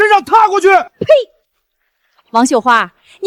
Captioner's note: silence